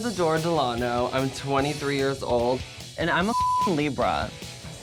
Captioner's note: beep